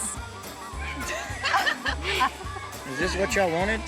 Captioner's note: everyone chuckles